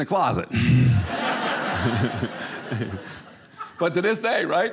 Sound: audience laughing

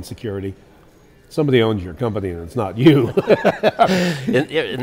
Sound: laughs

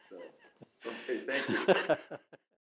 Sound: laughs

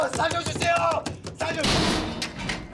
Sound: metal clangs

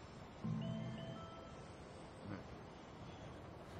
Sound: mobile bleeps - "message"

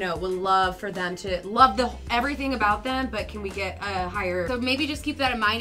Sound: none

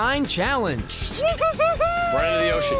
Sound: cheering

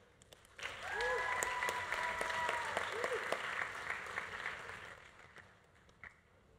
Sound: audience applauding; audience cheering

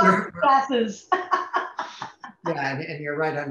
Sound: laughs

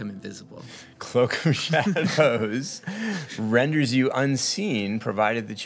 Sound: laughs

